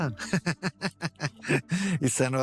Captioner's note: laughter